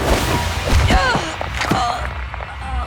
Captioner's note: grunting